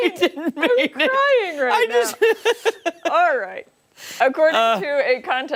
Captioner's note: laughter